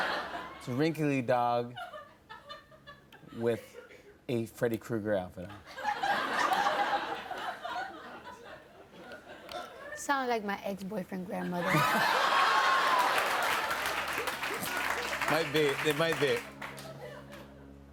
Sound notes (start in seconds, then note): 11.6 laughter